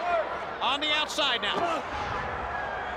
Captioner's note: crowd cheering